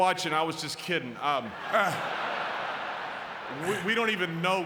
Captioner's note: audience laughing